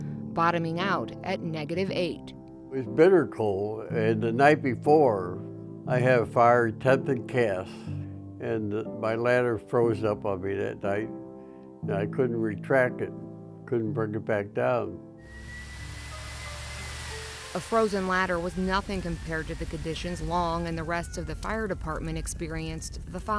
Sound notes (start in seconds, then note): 15.2 SIRENS WAILING,</b> <b>WATER SPRAYING